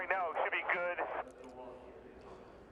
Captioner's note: radio